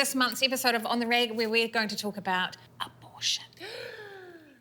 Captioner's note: whispers; gasps